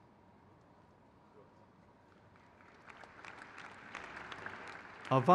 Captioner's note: crowd cheers